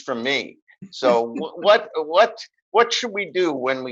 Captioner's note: laughing